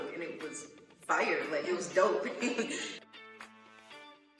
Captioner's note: laughs